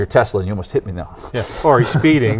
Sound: laughs

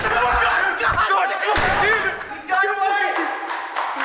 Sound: gun firing; screams

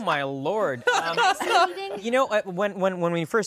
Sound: laughing

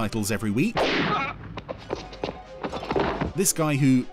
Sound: gun fires; grunting

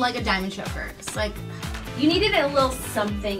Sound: sighs

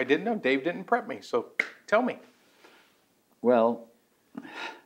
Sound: claps hands

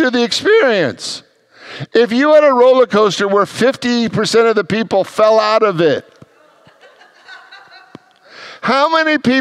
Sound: congregants laugh

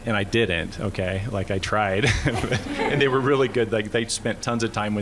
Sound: laughter

